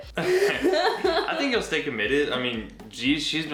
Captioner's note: laughing